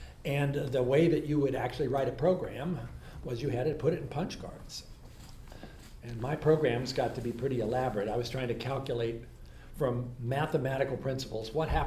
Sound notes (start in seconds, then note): none